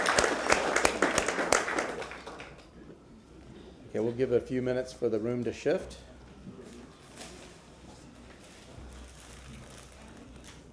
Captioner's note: applause